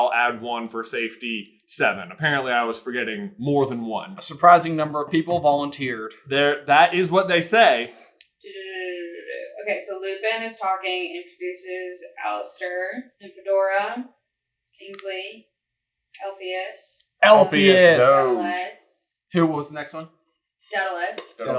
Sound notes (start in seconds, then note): 8.4 doo doo doo'ing